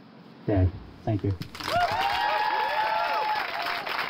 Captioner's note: cheering